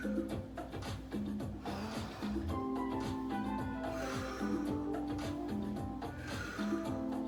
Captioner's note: breaths heavily; upbeat music; breaths heavily; upbeat music